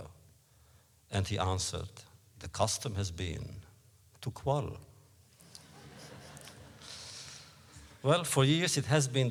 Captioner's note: laughter